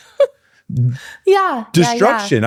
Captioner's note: laughing